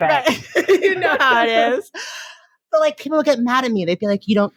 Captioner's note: laughing